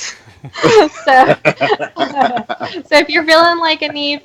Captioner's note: laughing